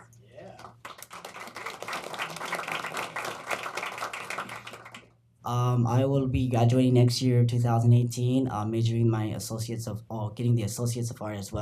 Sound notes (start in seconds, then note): 0.5 applause